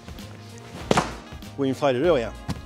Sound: mat rattles

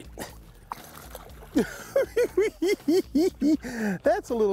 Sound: laughing

